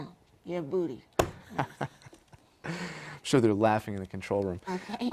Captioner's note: laugh